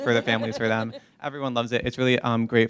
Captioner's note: laughter